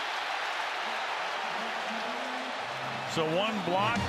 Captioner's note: cheering